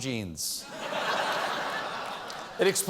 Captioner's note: laughter